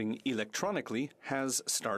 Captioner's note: speaking French